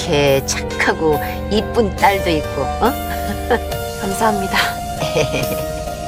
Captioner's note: Tiếng ồn phát sóng trực tiếp